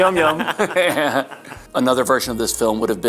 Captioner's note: Harry laughs; Alexander chuckles; Harry laughing